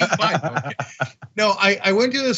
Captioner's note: laugh